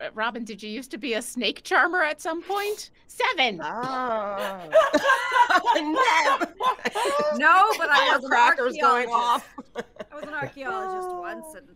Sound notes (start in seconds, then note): 4.0 Neb poofs; 4.4 laughing